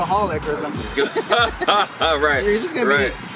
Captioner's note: both laughing